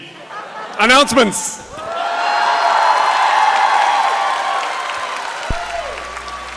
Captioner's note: applause